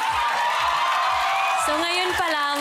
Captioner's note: whooping, clapping